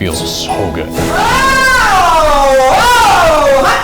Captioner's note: screams